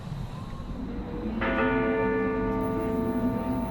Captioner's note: bell tolls